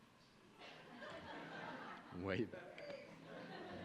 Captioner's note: audience laughing